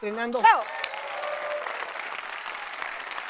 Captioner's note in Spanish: Ovación